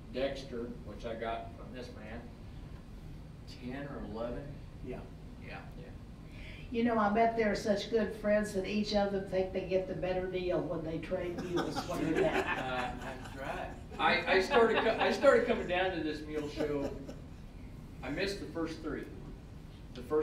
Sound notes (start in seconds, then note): 11.3 all laughing